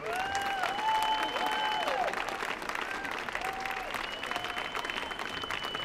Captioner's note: audience cheering and applauding